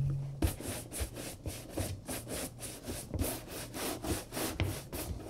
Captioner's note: coarse brush scratching